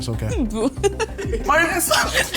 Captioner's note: laughs